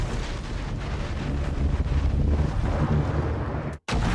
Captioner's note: thunder